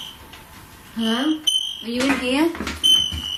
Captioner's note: metre beeping